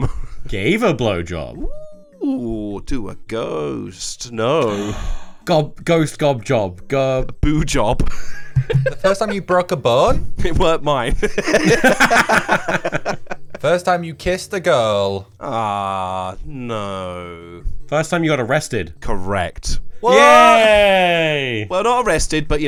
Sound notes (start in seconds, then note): 4.6 gasps; 8.1 laughs; 15.5 all laugh